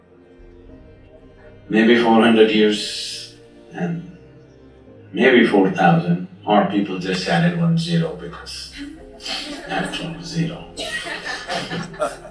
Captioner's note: meditators Laugh